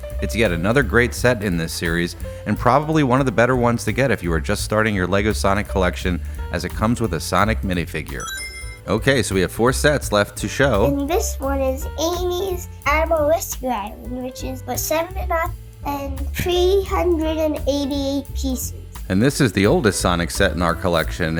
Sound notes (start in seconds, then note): 8.2 Sonic Ring Chime